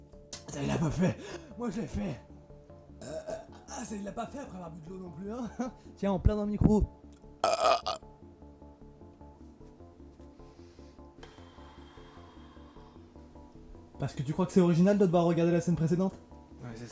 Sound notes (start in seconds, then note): 3.0 burp; 7.4 burp